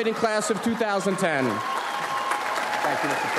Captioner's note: audience applauds